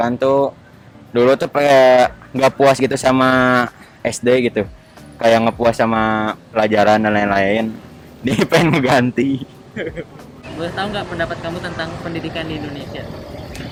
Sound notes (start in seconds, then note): 9.6 giggling